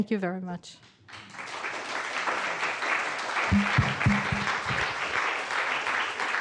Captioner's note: applause